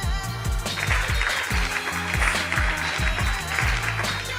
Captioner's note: applause